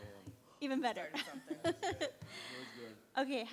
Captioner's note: laughs